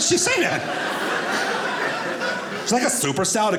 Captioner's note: audience laughing